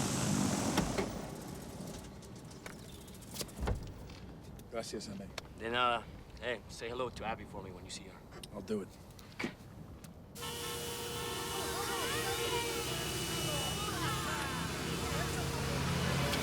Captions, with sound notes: - Gracias, amigo. - De nada. Hey, say hello to Abby for me when you see her. - I'll do it. (horns honking) (people chattering angrily)